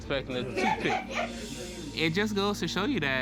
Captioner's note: laughter